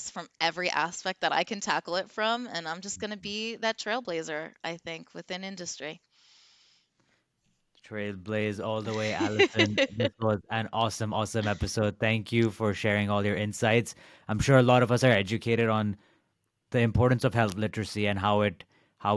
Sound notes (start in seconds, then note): 8.8 giggles